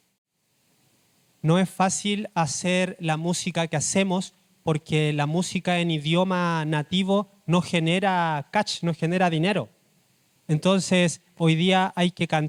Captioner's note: speaking Spanish